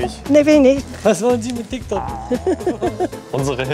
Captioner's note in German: Beide lachen